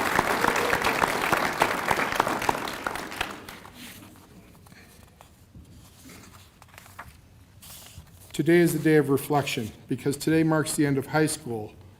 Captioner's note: applause